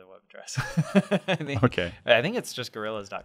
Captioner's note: laughs